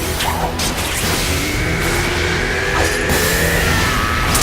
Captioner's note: bellows